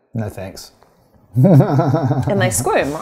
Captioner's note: chuckles